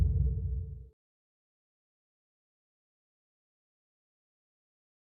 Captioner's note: silence